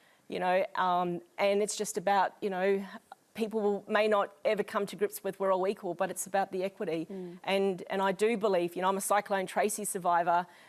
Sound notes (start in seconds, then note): none